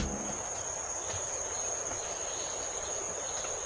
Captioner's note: birdsong and loud cicadas